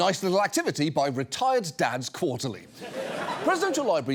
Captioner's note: audience laughs